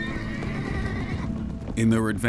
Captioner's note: horse whinnying